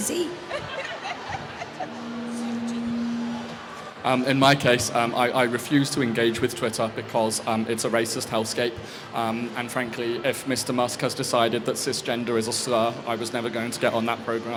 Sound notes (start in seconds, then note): 0.4 laughs